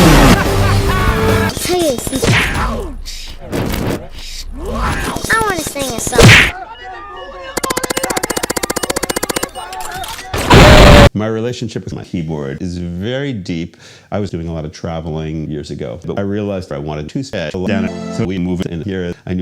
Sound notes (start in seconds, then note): 2.2 punch; 7.6 hitmarker sounds